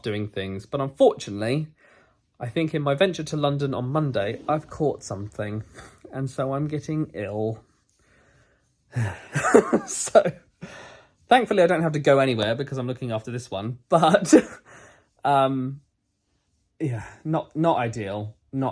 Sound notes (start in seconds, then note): 9.1 sighs; 14.6 laughs